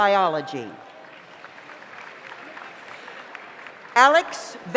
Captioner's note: audience applauds